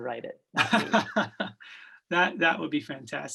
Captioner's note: laughs